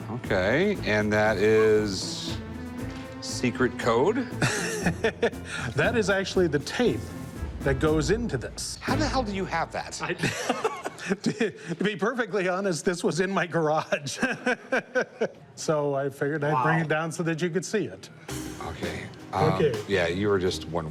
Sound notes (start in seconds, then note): 4.3 laughs; 10.2 laughs; 13.8 laughs